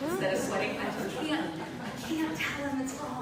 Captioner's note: laughter